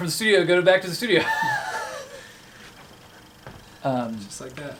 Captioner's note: laughing